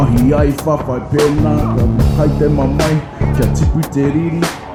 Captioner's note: non-english speech